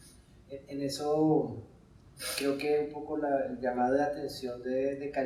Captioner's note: speaking in Spanish